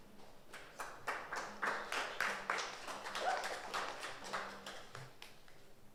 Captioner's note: audience applauds